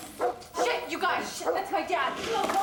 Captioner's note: dog barking